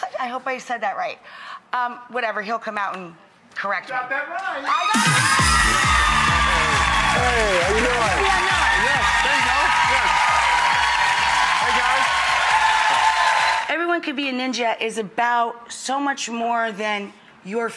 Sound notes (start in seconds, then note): 5.7 energetic, upbeat music; 8.5 mumbles; 9.5 audience cheering